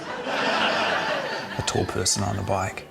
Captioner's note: laughter